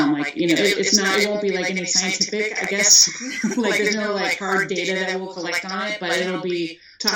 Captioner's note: chuckles